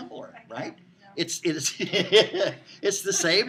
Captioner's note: laughing